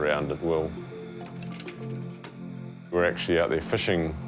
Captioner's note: projector clicks